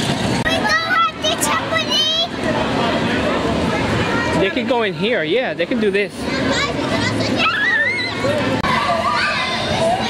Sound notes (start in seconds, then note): 7.4 shreiks